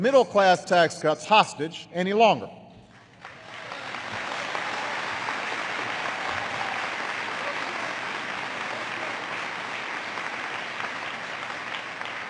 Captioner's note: applause